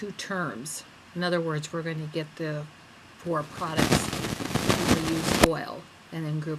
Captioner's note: audio distorts